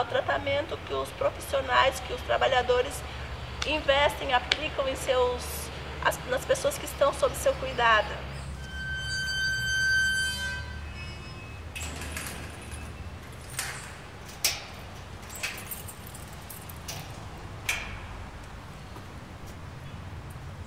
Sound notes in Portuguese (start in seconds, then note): 8.4 Rangido de porta; 13.2 Porta sendo fechada e passos